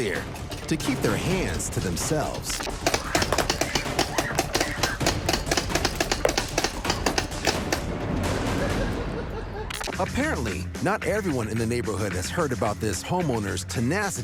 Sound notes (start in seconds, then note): 2.5 paintball gun firing